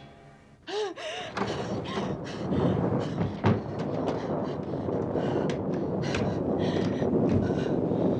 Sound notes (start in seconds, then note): 0.7 gasping, panting; 2.9 thunder continues rumbling